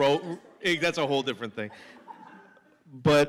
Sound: laughter

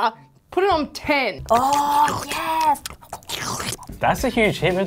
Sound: chomping and slurping

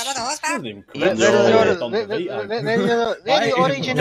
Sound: stammers

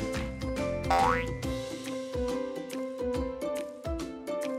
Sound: spring springing

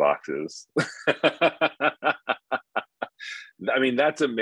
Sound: laughing

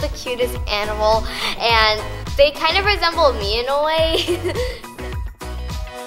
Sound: giggles

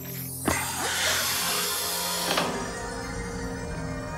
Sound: gasping

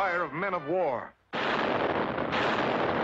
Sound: cannon Fire

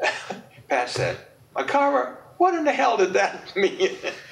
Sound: chuckles; laughs

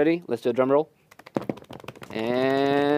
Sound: hands drumming on legs

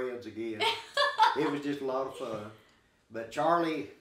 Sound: chuckling

